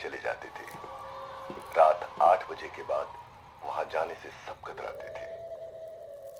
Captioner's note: radio